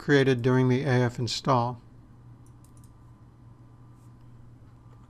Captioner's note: typing